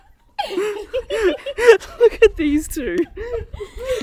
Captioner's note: laughs